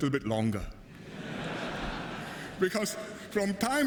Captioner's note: laughter